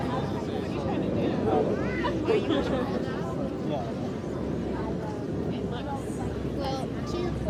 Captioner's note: talking people